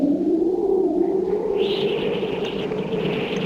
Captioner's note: wind whistling